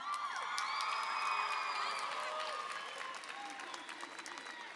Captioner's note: applause and cheering